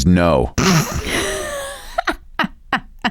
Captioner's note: chuckles